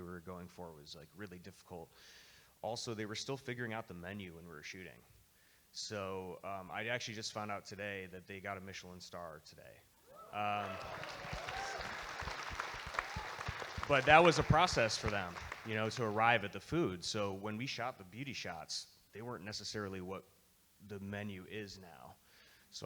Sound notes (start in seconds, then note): 10.2 audience member cheers; 10.3 audience Applauding